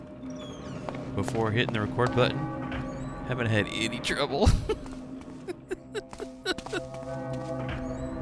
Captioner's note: laughter